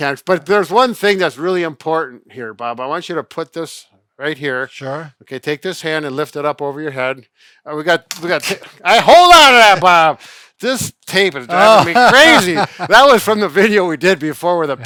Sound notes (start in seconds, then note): 11.5 laughing